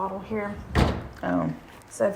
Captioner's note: door thuds